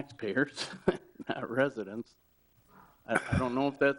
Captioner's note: laugh